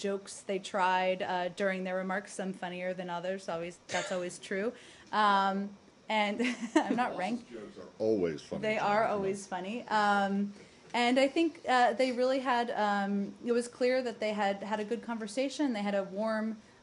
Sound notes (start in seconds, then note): 6.4 laughter